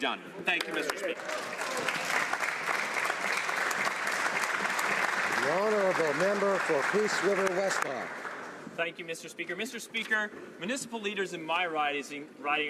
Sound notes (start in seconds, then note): 6.5 some Applause